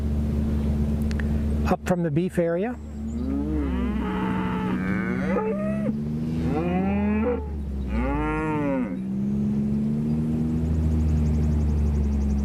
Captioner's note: cattle and motor sounds; cattle and motor sounds